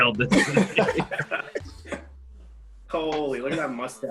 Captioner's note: all laugh